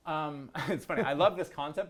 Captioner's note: laughs